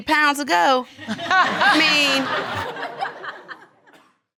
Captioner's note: audience laughing